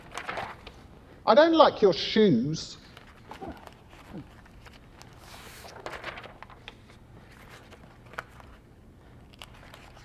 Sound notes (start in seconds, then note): 2.8 paper rustling